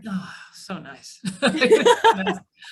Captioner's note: laughter